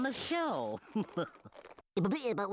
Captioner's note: chuckling